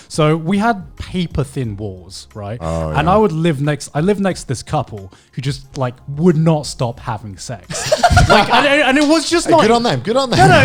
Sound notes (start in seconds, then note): 7.7 laughing